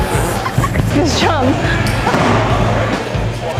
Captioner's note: laughs; laughing; upbeat music